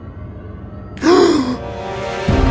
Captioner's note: gasp